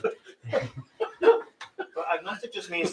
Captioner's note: laughter; laughing